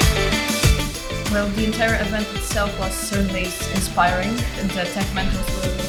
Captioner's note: girls speaking over music